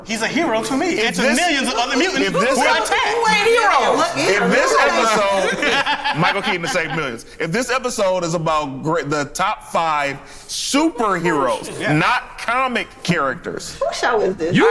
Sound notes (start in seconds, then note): 4.1 overlapping chatter; 5.7 laughs